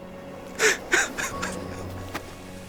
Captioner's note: crying